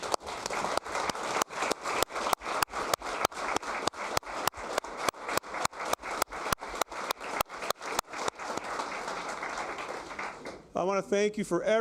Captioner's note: applause